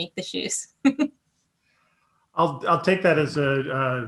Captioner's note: chuckles